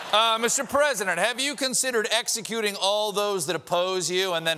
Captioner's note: laughter